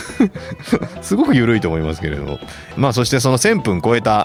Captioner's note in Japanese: 笑い